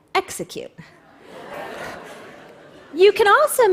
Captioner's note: laughter